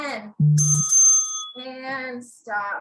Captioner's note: bell rings